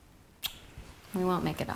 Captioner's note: kiss